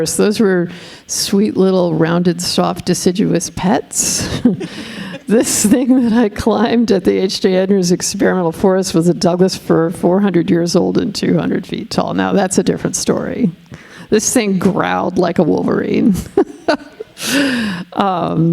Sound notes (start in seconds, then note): 4.2 all chuckling; 16.2 chuckling